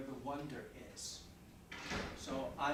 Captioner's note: door thudding